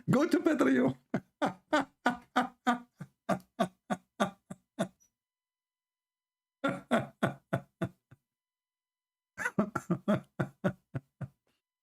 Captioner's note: Ketawa